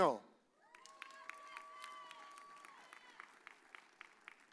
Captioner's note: audience cheers